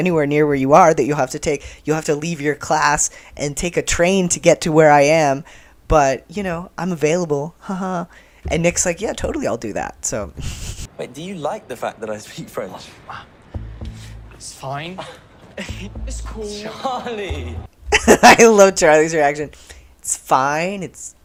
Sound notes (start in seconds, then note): 16.2 laughing; 17.8 laughter